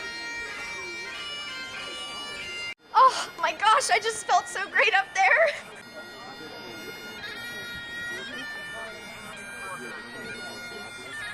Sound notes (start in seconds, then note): 5.5 indistinct background chatter